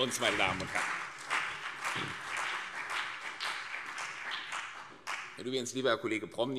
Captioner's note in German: Beifall CDU und BÜNDNIS 90/DIE GRÜNEN